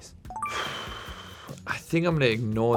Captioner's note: Harry exhaling heavily